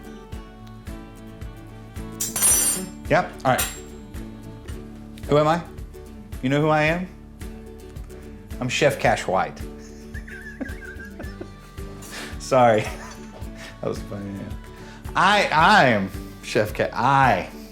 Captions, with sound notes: (knife clanks) Yep, all right. Who am I? You know who I am? I'm Chef Cash White. (laughs) Sorry, that was funny, yeah. I'm Chef, I.